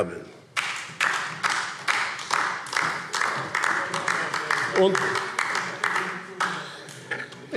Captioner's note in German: Beifall DIE LINKE - Zuruf AfD